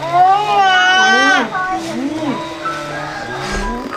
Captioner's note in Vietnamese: la hét